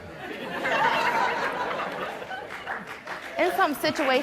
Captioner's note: audience clapping